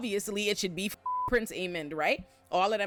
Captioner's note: beep